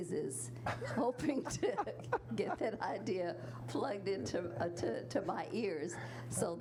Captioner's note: chuckles